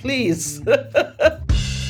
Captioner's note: laughter